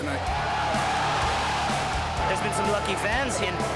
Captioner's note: crowd cheering